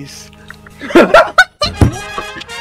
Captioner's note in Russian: Приступы жёсткого смеха